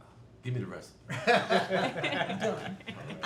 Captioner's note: family laughing